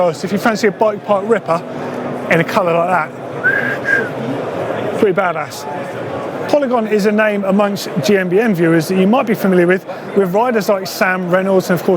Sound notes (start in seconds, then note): 3.4 whistling